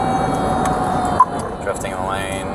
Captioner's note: police radio beeping